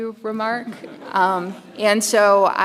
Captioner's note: audience chuckles